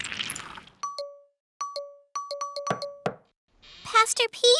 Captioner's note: device beeping; knocking